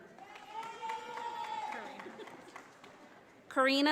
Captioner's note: audience applauding